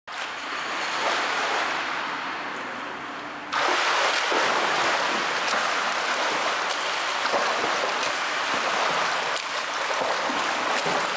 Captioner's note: sound of water